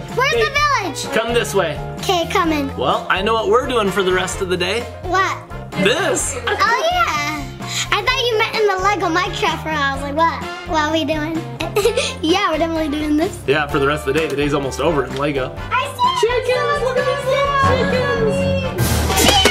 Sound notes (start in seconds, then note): 11.6 laughs; 18.8 exploding effect